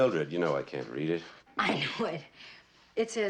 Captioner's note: chuckling